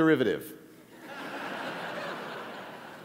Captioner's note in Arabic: ضحك